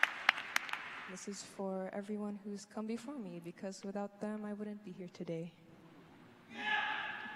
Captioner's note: applause